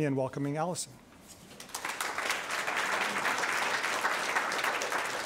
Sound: audience clapping

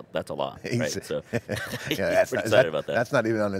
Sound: both laughing

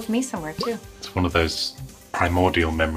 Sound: bubble pops

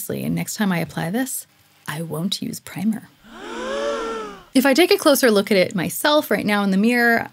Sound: gasp

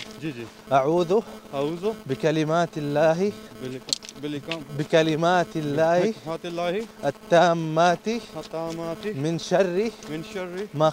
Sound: Arabic

